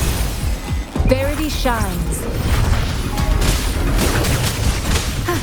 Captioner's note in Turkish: Çatışma sesleri